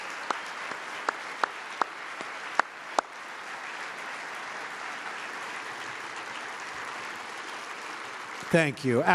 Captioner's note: applause